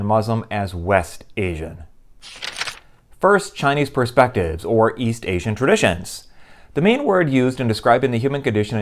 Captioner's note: page turning